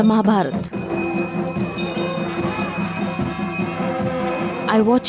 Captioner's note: bells chimes; intense drumming